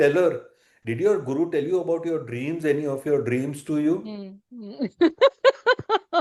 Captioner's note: laughter